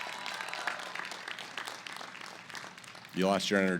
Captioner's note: applause